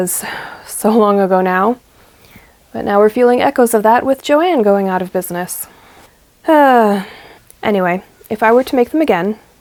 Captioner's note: sigh